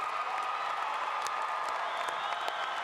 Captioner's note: applause